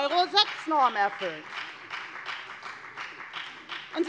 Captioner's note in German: Beifall bei der FDP